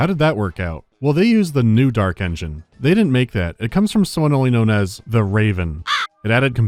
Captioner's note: caw!